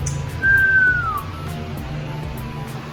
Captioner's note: whistling